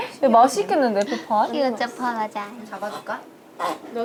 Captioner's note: chatting